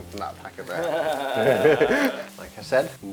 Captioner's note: laughter